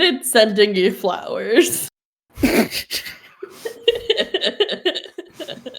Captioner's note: laughter